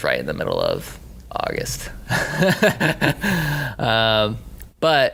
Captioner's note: laughing